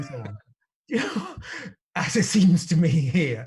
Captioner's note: laughs